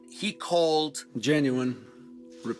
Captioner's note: soundbite of archived recording